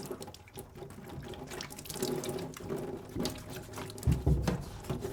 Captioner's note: water splashing continues